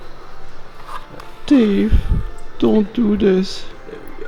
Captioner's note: Imitating HAL from 2000 Space Odyssey